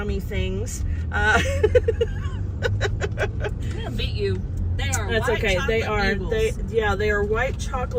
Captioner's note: laughter